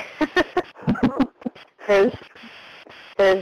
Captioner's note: chuckles